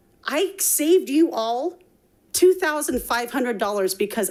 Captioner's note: none